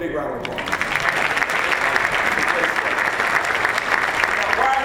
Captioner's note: applause